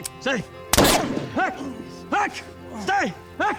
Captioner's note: gunshots banging